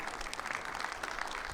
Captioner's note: audience clapping